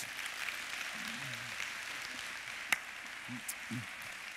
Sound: congregation claps

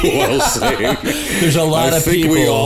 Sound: laughter

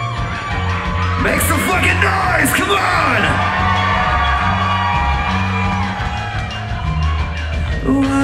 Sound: crowd cheering increases

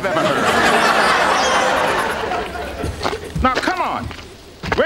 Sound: audience laughs

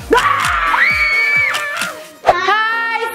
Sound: both scream loudly

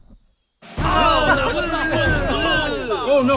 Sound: shouting

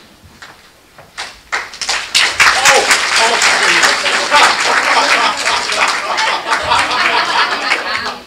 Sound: applause

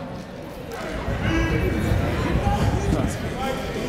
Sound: chatter

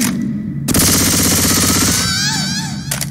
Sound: another death scream SFX

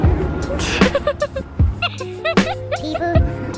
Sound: laughing

